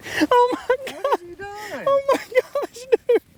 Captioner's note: laughing